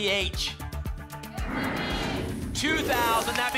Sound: whoosh

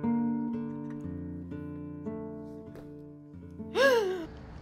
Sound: Raquel crying

